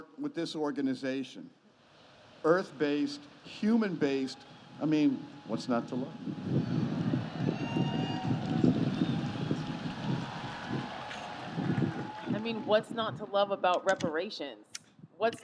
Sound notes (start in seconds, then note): 6.9 audience cheers and claps; 6.9 wind blows